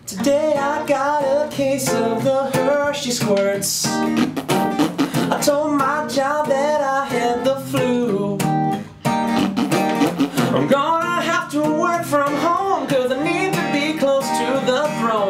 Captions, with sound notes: Today I got a case of the Hershey squirts *FARTING SFX TO BEAT* I told my job that I had the flu *FARTING SFX TO BEAT* I'm gonna have to work from home, cause I need to be close to the throne